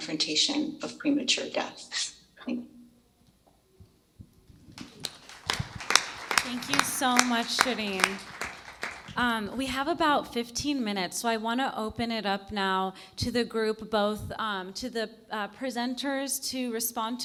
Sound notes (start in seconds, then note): 4.7 applause